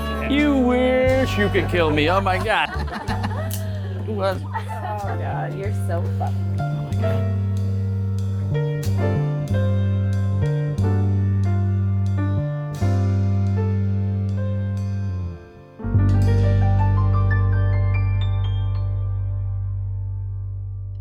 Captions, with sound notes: You wish you could kill me Oh my god *More laughter*